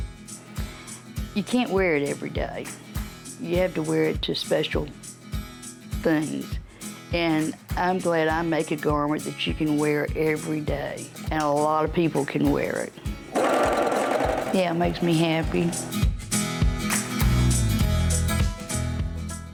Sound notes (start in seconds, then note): 13.3 sewing machine whirring